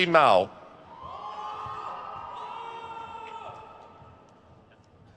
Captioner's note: crowd cheers